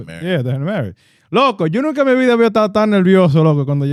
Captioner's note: speaking In Foreign Language